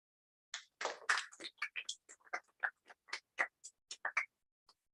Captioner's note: applause